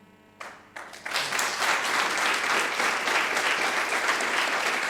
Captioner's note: audience applauding